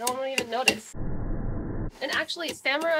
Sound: whoosh

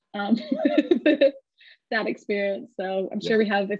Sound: laughs

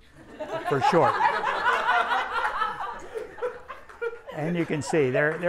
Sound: everyone laughs

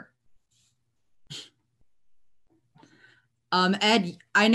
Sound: chuckles

